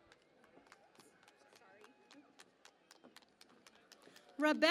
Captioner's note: cheering and Applause